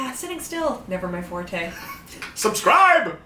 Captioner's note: laughs